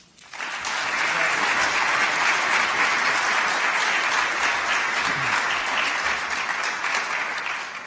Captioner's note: applause